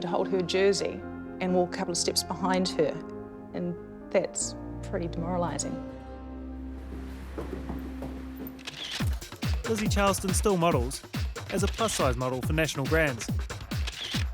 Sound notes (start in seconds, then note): 8.6 camera shutter sounds